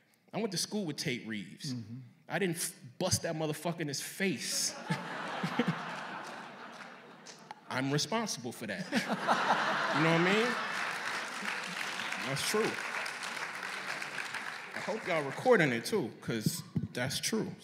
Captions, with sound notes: I went to school with Tate Reeves. I didn't bust that motherfucker in his face. [Laughter.] I'm responsible for that. You know what I mean? That's true. [Laughter and applause.] I hope you all recording it, too, because that's true.